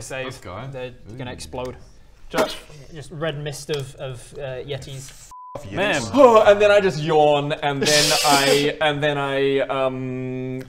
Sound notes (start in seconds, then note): 2.2 pfffpt